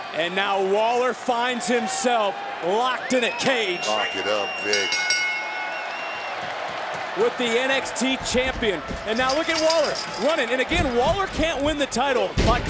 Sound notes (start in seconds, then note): 3.8 bell rings